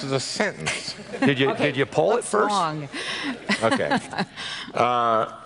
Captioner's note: laughs